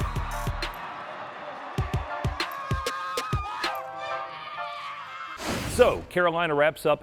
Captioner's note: cheering; applause